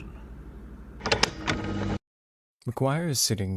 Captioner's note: recording stops